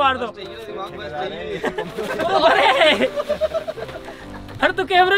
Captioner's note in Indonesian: Tertawa